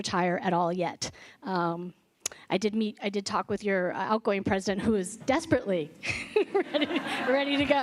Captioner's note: laughter